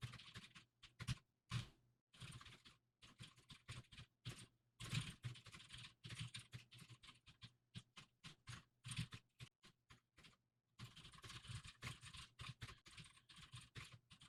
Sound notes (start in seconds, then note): 2.7 typing sounds